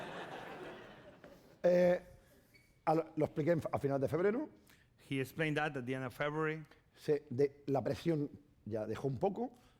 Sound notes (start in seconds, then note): 0.0 laughter; 4.1 speaking spanish; 8.4 speaking spanish